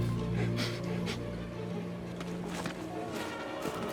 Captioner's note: Walter sniffing; dramatic music